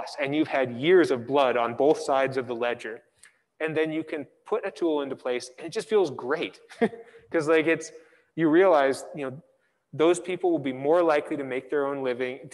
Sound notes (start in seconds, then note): 6.7 giggles